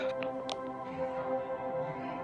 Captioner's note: exhales